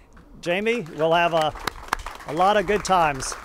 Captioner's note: audience clapping